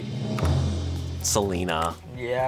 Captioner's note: tense music building; button clicks